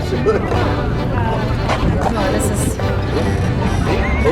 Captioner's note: laughing